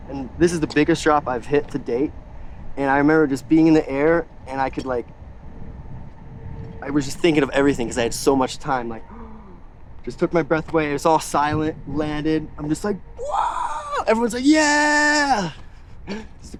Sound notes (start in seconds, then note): 9.0 inhales